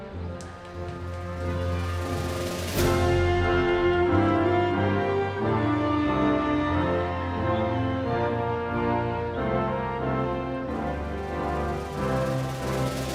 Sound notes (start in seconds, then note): 4.1 audience continues cheering